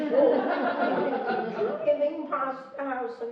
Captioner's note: laughing